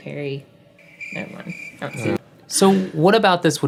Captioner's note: crickets chirping